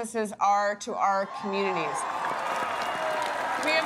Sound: cheering

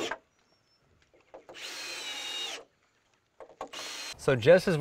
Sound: drill whirring, no additional audio

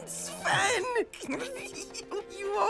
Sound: Olaf laughs

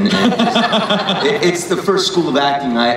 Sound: everyone laughs

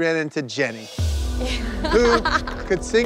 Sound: laughing

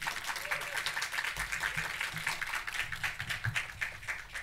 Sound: audience clapping

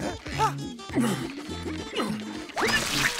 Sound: panting; grunting

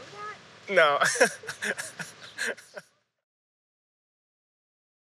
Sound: laughs

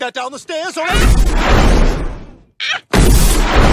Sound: lois grunting

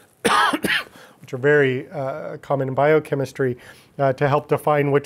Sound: coughing

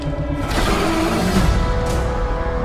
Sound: Skull-Crawler roar

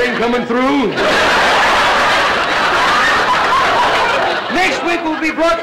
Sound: audience laughter

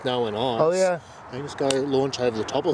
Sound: hand together slapping

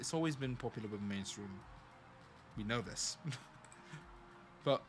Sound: laughs

